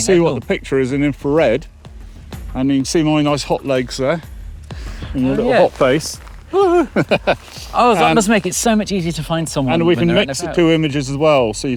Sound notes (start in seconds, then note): 6.4 laughs